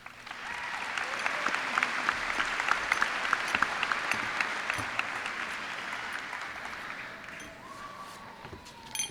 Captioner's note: cheers and applause